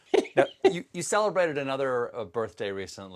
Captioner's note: laughs